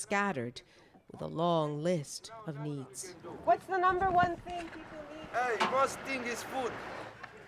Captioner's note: none